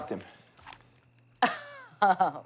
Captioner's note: laughs